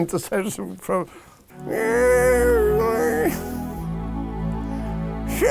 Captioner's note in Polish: imituje starszym głosem